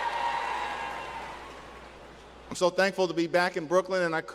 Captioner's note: cheers and applause